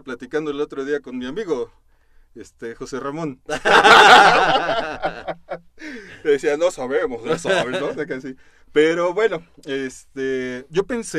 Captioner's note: laughter